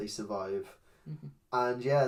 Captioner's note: agreement Hum